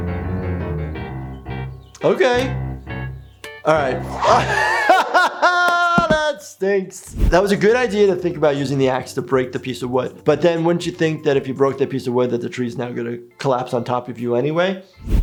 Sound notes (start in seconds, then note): 0.1 dramatic music; 4.0 laughing